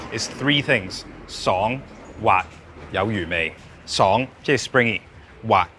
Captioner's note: speaking in foreign language